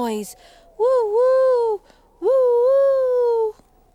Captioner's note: Tula hooting